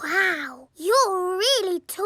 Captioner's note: none